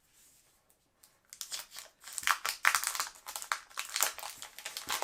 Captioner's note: plastic crinkling